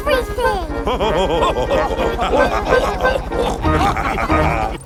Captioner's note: chuckles; all laughing